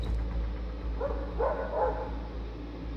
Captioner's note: dog barking